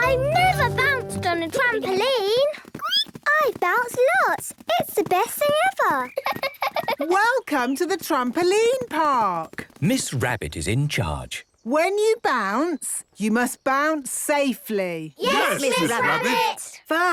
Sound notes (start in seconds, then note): 3.0 squeaks; 6.1 giggles